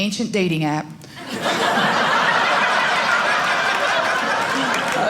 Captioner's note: audience laughing